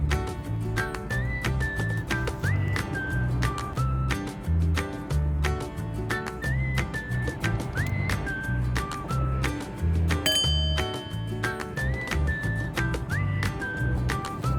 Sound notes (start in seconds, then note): 10.2 bowl chimes; 11.8 playful music